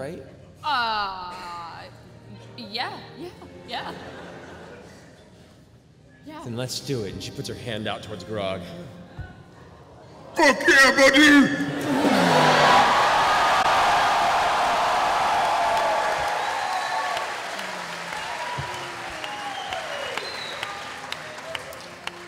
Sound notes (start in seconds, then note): 10.4 shouting; 13.1 cheering